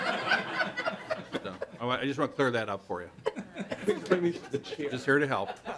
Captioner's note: laughter